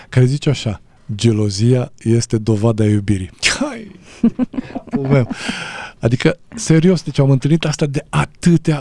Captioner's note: laughter